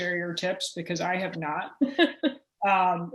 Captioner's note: laughter